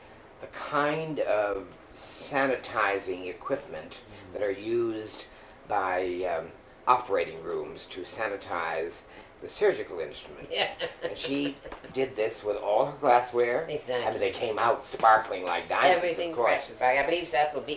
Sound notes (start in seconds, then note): 10.4 laughter